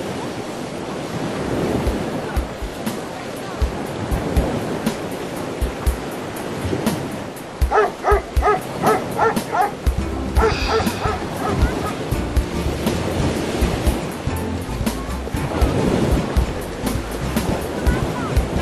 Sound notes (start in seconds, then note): 0.0 children Chattering; 0.0 ocean Waves; 7.6 dog Barking; 10.3 sigh